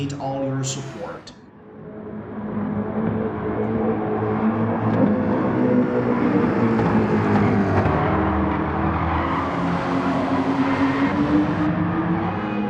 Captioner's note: engines revving, cars noises